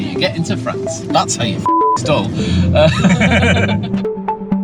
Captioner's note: beep; laughing